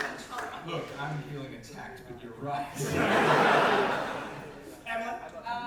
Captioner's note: audience laughter